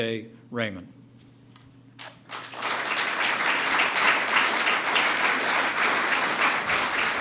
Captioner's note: applause